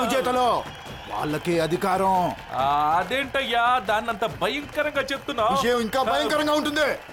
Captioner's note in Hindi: तालियाँ